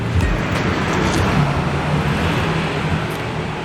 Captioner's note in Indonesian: Suara renyah